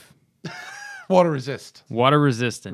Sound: laughter

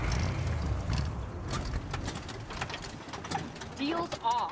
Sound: engine Sputtering

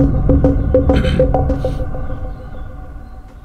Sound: clears throat

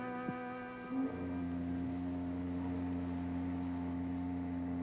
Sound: work whistle tooting

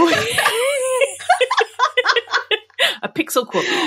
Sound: laughing

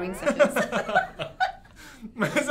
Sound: both laughs

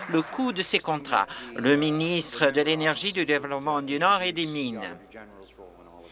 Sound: some Applause

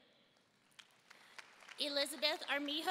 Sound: audience applauding and cheering

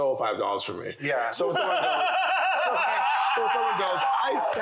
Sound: panel laughing

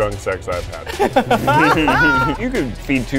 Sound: laughs

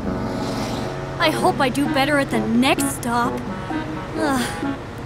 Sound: sigh

